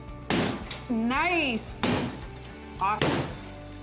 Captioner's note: banging